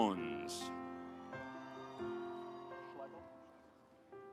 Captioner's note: audience applauds